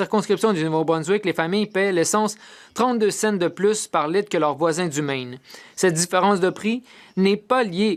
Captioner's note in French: voix de l'interprète